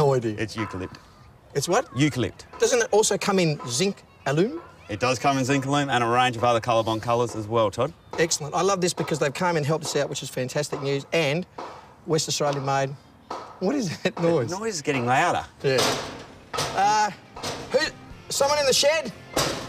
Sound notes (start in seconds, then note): 13.2 hammering; 15.7 bang; 19.3 bang